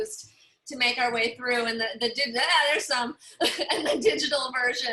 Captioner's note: laughter